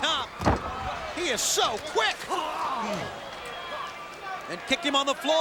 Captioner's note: liger grunting